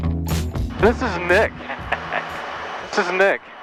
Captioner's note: laughs